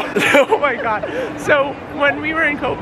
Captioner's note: lols